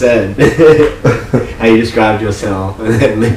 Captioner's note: laughing